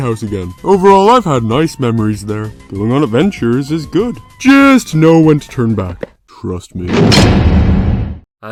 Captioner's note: cell closes